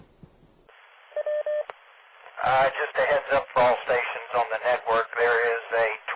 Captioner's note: SOS sound